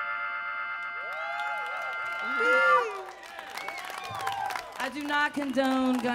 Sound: audience clapping

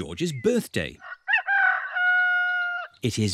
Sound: roster crows

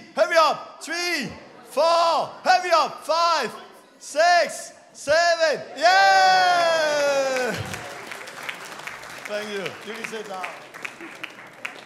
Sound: clapping

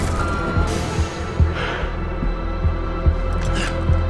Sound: sighs

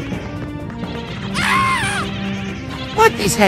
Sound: Mario screams

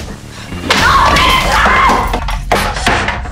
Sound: chair breaks

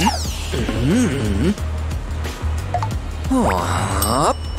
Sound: groans

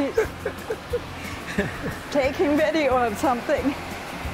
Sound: laughing

